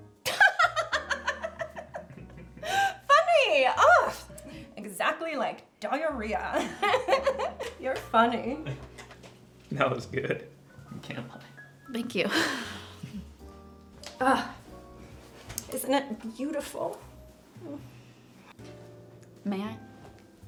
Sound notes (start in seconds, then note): 0.2 Diana laughing; 6.6 laughing; 13.0 chuckles; 14.5 exclaims